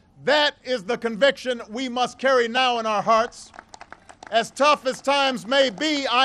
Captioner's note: applause